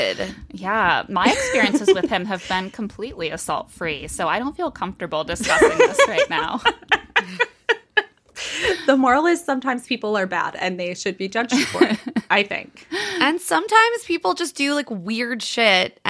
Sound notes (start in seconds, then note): 5.4 laughing